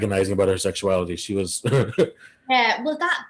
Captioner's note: chuckles